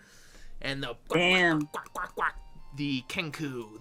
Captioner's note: squawking